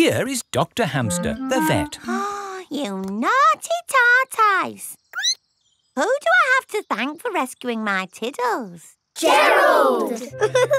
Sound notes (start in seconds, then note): 1.9 gasps; 4.9 squeaks